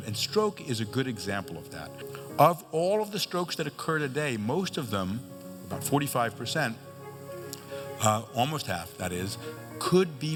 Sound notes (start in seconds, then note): none